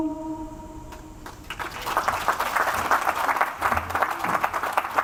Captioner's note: audience applauds